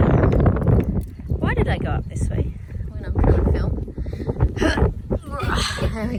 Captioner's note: grunts with effort of climbing